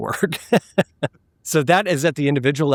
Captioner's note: laughing